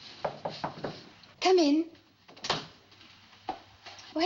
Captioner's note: Knocking